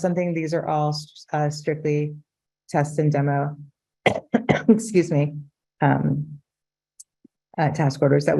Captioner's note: coughs